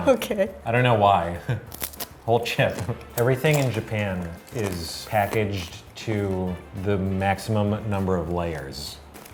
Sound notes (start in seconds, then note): 1.7 chewing